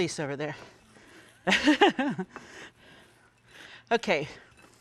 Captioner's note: laughing